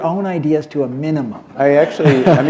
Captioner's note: laughter